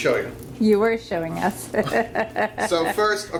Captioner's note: laughs